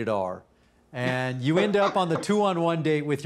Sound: laughs

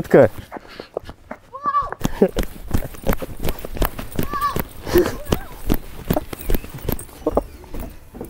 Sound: gasps of amazement

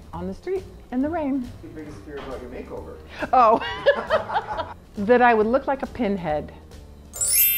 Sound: laughs

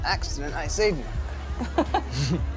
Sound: laughs

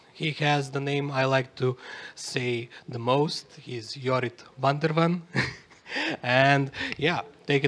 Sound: chuckles

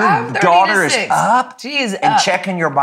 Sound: laughing

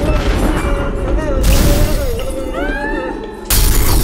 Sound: gun shots

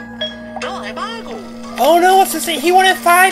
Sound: customer speaks gibberish

